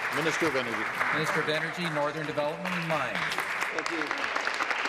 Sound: applause

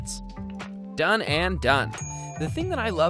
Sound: bell dings

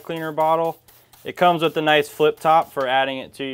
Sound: bottle sprays

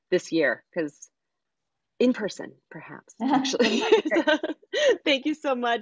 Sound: laughing

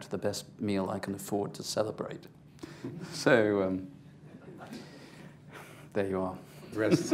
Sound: laughter

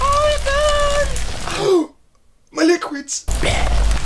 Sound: gasp

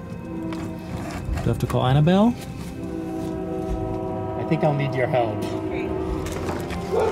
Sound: train whistle; neighborhood dog barks

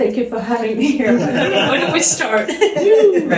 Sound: laughing

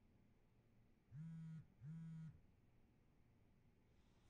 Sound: cellphone vibrates

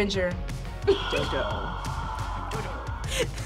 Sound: laughs; sighs; laughs

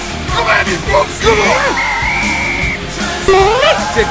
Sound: blow soccer whistle

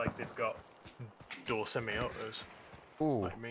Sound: explosion; gunshot

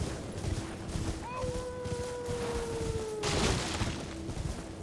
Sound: howling

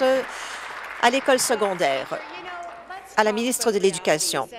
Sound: applause

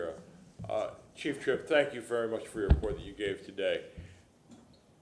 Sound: off microphone

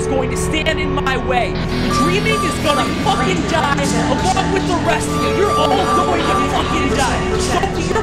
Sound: robotic voice, alarm sounds intensify

